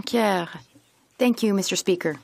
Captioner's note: speaking French